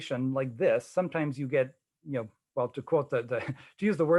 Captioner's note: chuckling